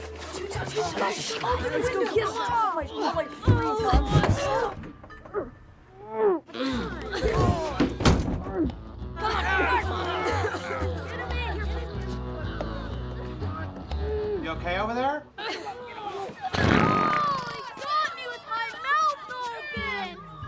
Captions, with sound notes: Two Ton's goin' in. Open the window. [ Chattering ] [ Pounding, Grunting ] - You okay over there? - [ Breaks Wind ] Oh! He got me with my mouth open.